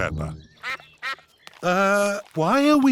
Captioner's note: sucks quacking